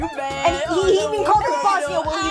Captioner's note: laughing hysterically